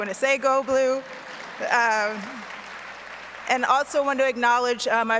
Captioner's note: audience applauds